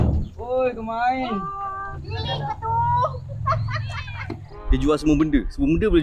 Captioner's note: laugh